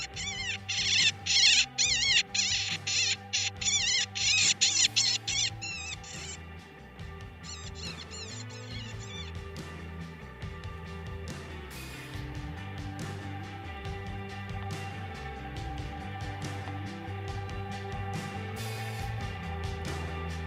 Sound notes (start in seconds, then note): 0.0 coyote calls louder; 6.7 coyote calls fade; 11.6 upbeat music